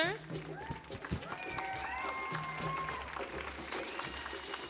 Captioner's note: audience cheering